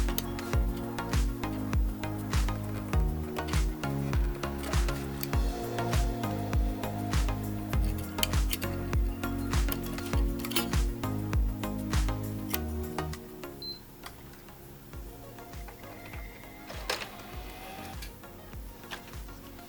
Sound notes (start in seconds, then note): 3.8 engine revving